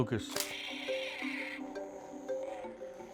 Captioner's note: lightsaber noises